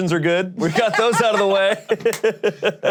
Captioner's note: laughs